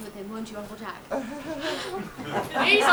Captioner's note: Jack chuckles